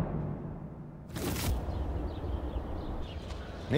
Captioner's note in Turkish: Kuş cıvıltısı sesleri